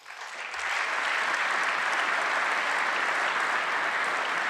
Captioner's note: applause